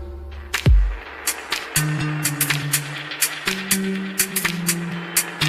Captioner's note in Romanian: Aplauze